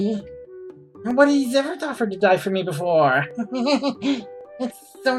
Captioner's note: laughs